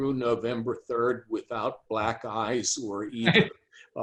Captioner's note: chuckles